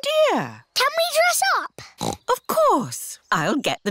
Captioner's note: snorts